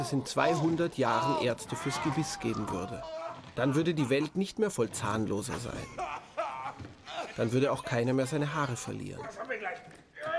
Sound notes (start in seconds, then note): 4.5 Schrille Schreie, unverständliche Rufe